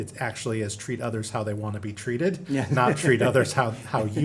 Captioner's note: chuckles